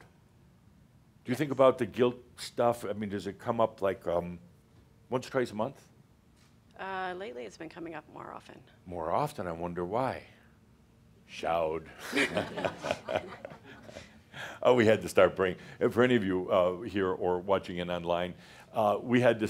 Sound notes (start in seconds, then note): 12.0 they chuckle